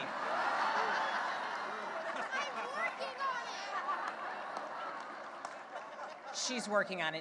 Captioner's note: cheering and laughter